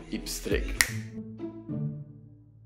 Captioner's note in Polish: pstryk